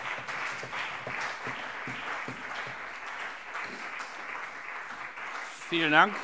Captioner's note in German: Beifall BÜNDNIS 90/DIE GRÜNEN und CDU